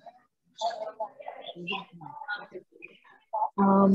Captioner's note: crowd chattering